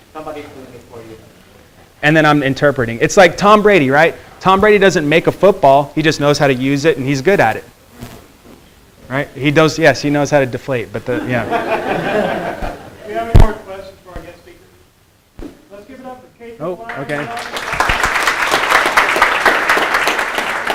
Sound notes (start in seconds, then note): 11.1 students laughing; 16.8 students applauding